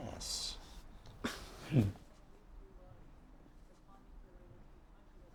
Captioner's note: both chuckle